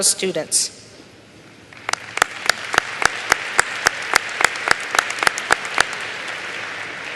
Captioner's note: applause